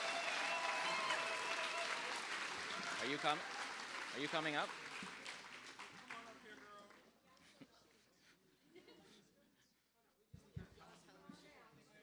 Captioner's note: cheers and applause